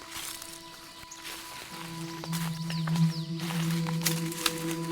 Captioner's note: birds chirping